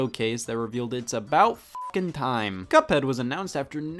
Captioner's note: beep